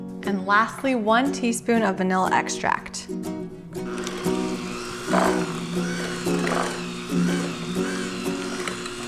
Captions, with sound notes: And lastly, one teaspoon of vanilla extract. (mixer whirring)